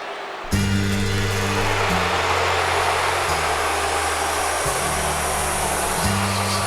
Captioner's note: crowd booing; bright hip hop music